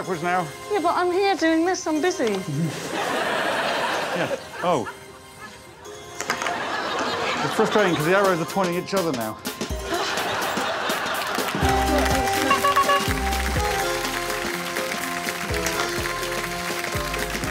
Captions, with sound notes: You have to walk backwards now. Yeah but I'm here doing this, I'm busy. Yeah, oh. It's frustrating 'cause the arrows are pointing at each other now. [air horn honks]